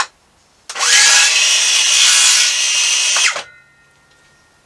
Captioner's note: saw whirring